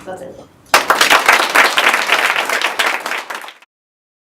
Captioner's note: applause